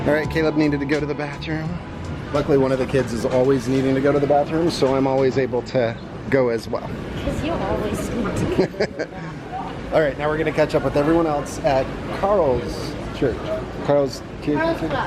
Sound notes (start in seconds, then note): 8.5 laughing amusingly